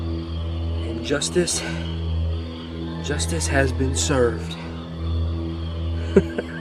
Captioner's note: laughing